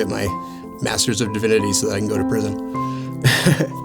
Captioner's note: chuckles